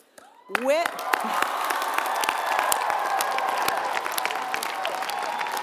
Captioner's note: applause